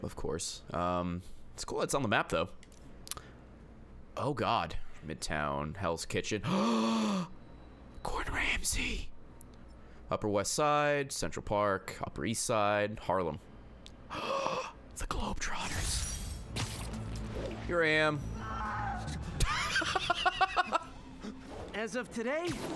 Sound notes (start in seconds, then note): 6.4 gasps; 14.1 gasps; 19.4 laughs